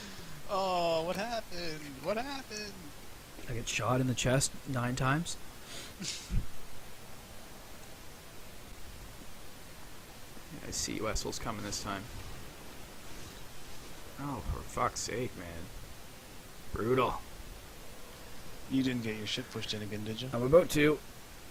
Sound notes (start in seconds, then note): 0.0 laughing; 5.9 chuckling